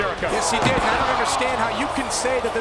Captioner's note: audience cheering